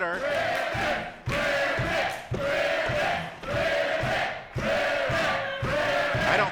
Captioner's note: crowd